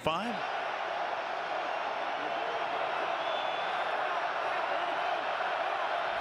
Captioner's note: cheers